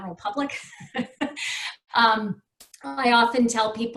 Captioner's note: laughs